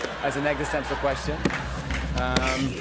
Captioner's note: drum roll; laughter